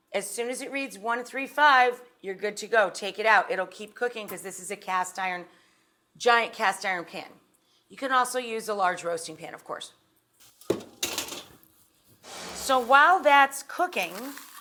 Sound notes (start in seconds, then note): 10.7 utensil clinking; 12.4 air whooshing